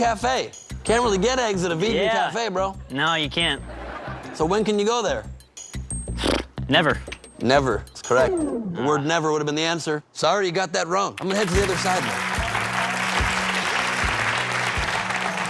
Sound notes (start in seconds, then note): 8.0 blows raspberries